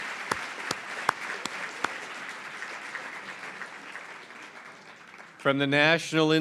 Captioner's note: applause